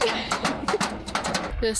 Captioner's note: laughter